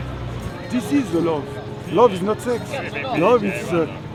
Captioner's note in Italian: Inglese